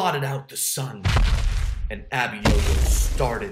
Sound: booming footsteps

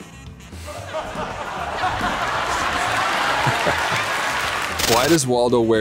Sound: applause

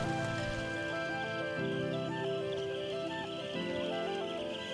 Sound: birds chirping

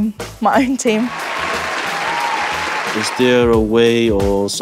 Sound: applause

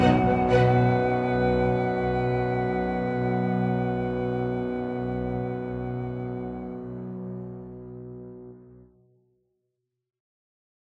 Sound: loud zeppelin motor

